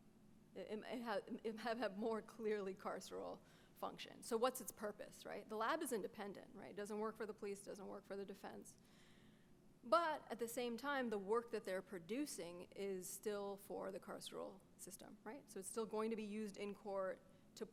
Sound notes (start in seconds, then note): none